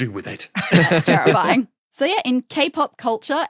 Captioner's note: laugh